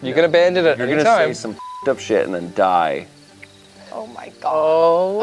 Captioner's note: beep